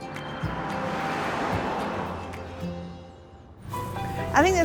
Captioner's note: calm music; car whooshes